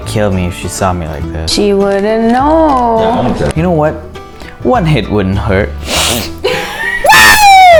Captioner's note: snorts; laughter